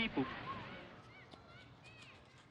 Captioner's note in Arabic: صراخ الاطفال